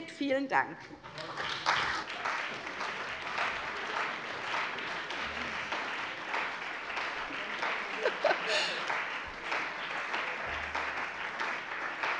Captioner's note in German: Beifall bei der CDU und dem BÜNDNIS 90/DIE GRÜNEN